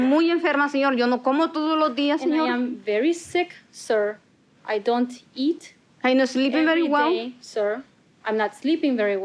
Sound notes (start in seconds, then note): 1.7 spanish continues